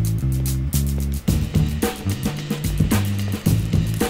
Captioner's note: footsteps growing louder